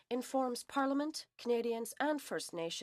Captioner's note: speaking French